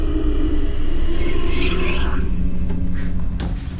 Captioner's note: demonic voice whispers; Mattie gasps